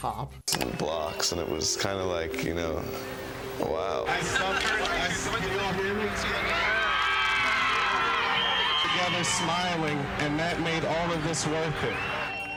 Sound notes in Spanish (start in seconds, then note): 7.0 Aplausos de la audiencia